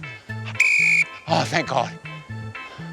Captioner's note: blows whistle